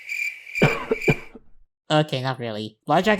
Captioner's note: cricket chirps; cough